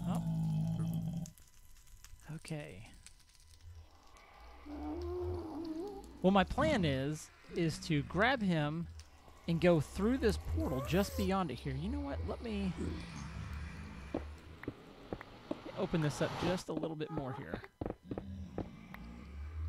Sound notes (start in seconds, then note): 0.0 ghast squalls; 13.7 ghast squalls; 17.0 ghast squalls; 18.1 grunting continues